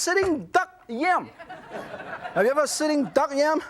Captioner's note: audience laughs